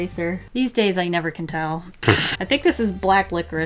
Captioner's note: laughs